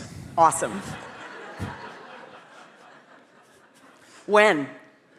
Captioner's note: audience laughing